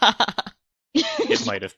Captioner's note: laughs